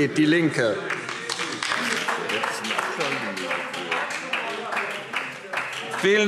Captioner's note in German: Beifall DIE LINKE